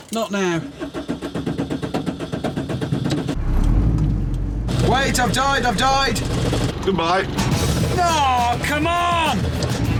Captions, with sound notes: Not now. (ENGINE STUTTERS) Wait. I've died, I've died. Goodbye. Oh, come on!